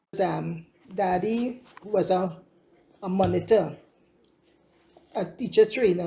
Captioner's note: AUDIO RECORDING continues